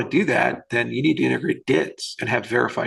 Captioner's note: murmurs